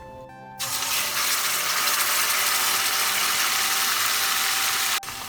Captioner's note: paste sizzles in oil